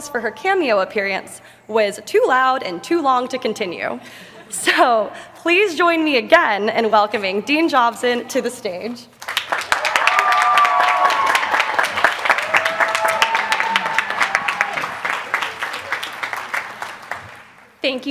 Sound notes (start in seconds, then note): 4.1 laughter; 9.2 applause